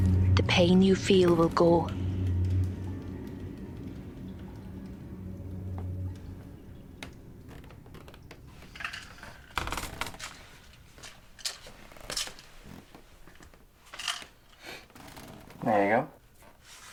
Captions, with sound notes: The pain you feel will go. [music fades] [bed creaks] There you go.